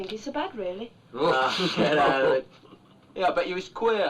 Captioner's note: laughing